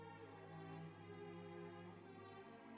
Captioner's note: none